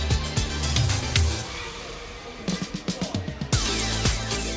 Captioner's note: # upbeat music #; background chatter